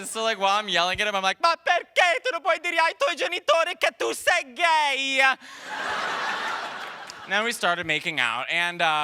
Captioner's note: speaking italian